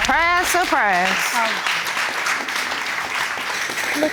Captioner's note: audience applauding